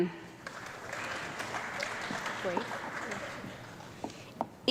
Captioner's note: audience clapping